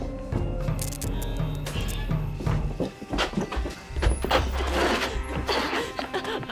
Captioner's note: suspenseful music; light buzzing